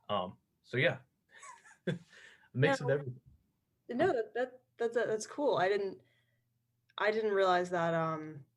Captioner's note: laughter